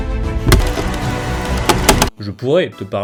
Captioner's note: more clicking!!!!!!